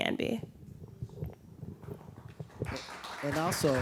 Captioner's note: clapping